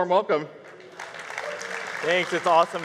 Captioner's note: audience applause